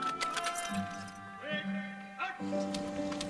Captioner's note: guns jingling